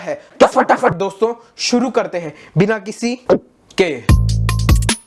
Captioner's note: gulp